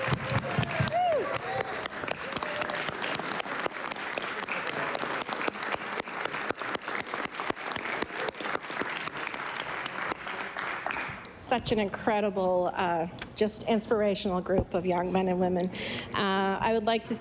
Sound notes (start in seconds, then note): 0.0 applause; 1.8 cheers